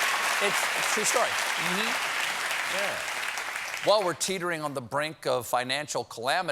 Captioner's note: cheers and applause